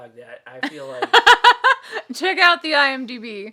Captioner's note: laughing